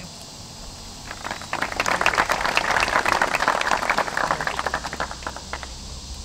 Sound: applause

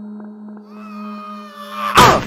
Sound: screaming

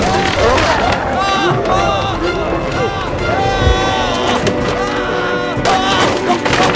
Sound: screaming

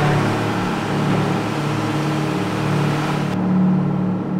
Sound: screams; machinery

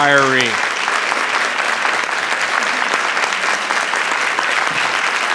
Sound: generous applause rings

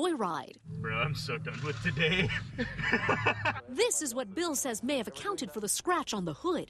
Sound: laughter

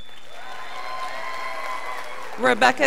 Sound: scholars applauding

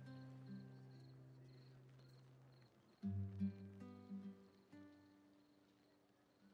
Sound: crickets chirping; gentle guitar music

